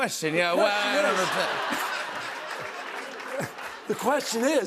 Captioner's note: laughter